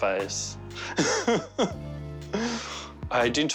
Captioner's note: laughs